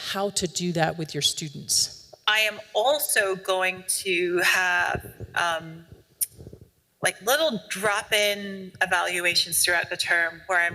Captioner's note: recording plays